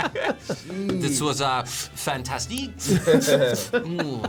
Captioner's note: French accent